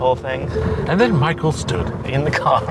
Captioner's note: laughs; in a soothing narrator voice; laughing